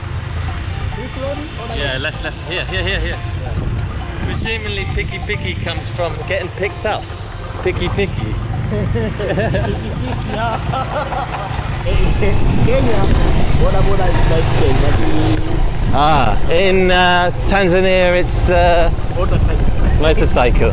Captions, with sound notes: Yeah left left here here. Presumably, "Piki piki", come from getting picked up. Piki Piki. (laughter) In Kenya, Boda boda is bicycle. Ahh, in Tanzania its motorcycle.